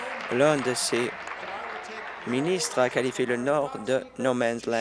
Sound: applause

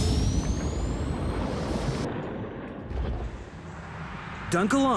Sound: water rushing

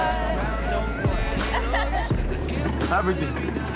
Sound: laughing

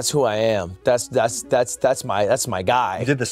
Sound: stutters

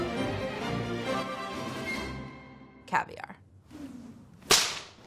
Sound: slap

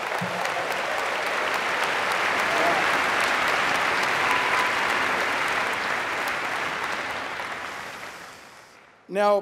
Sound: applause

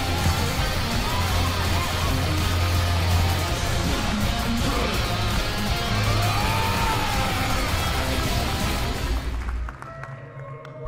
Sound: applause

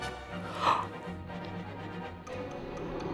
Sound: gasp

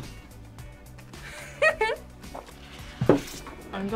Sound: laughs

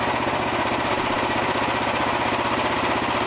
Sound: motor idles back down

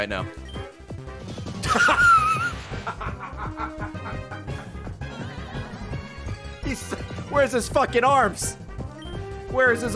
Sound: laughs

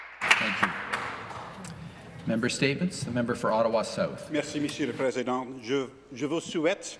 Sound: applause

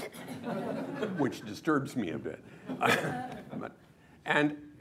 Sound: laughter

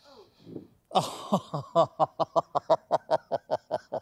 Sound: laughing

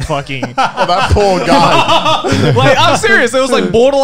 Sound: laughing

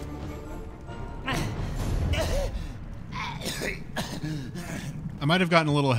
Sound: goblin panting and moaning

